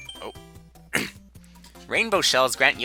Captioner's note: clears throat